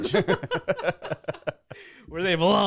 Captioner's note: laughing